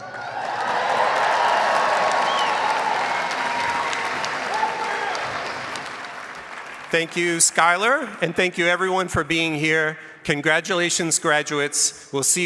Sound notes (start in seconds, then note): 0.0 audience cheers and applauds; 2.2 audience member whistles